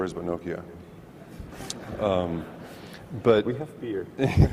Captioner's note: audience laughs